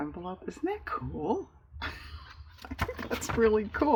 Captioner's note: laughs